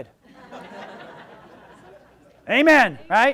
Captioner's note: audience laughs